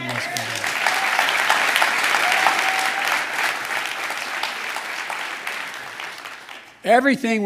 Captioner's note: applause